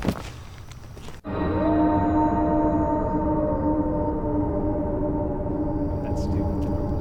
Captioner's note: eerie music; howling; chattering